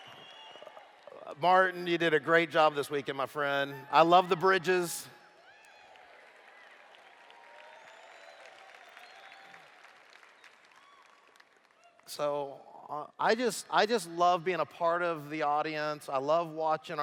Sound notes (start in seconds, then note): 0.0 cheers; 5.4 applause